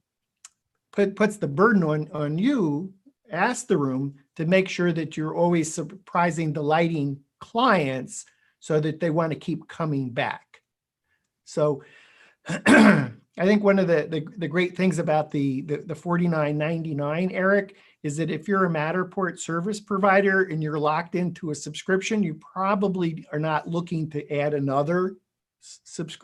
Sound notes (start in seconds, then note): 12.4 clears throat